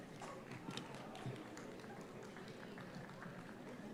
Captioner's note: audience applauds